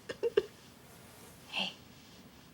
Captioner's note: weeping